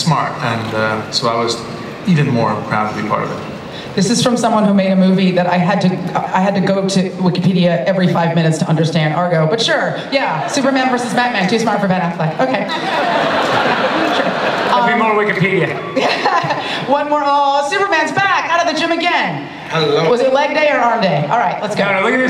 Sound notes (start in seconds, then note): 12.4 laughter; 19.8 voiceover